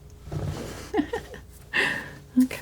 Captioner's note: laughing